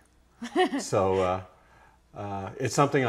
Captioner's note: laughs